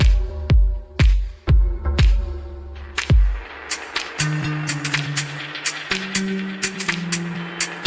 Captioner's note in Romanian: Aplauze